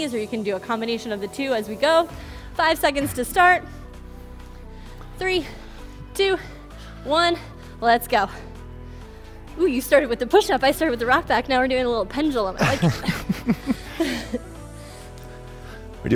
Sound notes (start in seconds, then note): 8.5 panting; 12.6 both laughing; 12.7 upbeat music